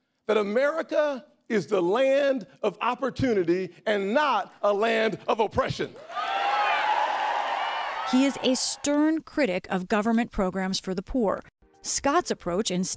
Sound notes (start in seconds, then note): 6.0 cheering and applause